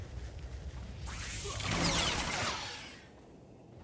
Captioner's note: gunshots